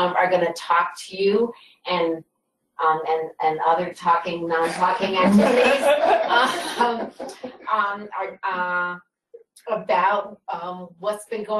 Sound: laughter

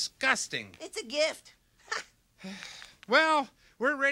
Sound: laughs

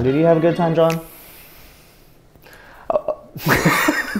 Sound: inhaling sharply; both laughing

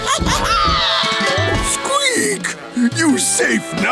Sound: squeaking

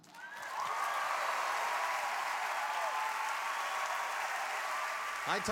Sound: cheers and applause

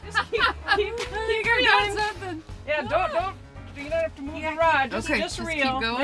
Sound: laughing

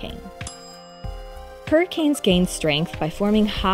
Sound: bell dinging

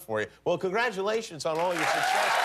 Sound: cheers and applause

